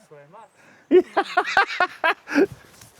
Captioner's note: laughing